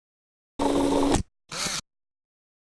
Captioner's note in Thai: เสียงเอฟเฟกต์